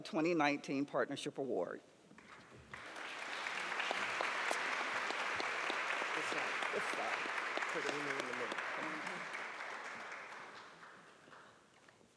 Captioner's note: applause